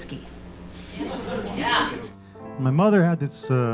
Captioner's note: audience laughing